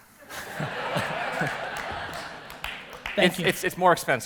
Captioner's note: audience laughter